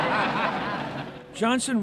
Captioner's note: laughter